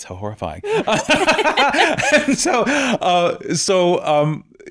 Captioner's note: laughing